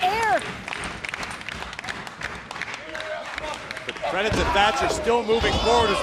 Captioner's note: crowd chatter